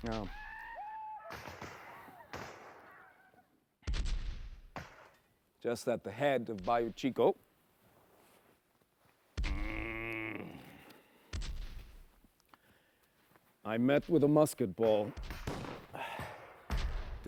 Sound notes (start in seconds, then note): 9.4 groans